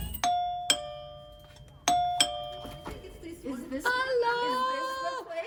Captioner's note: doorbell